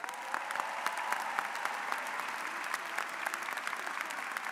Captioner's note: audience applauds